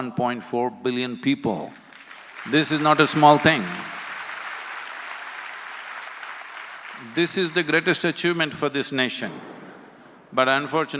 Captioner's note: applause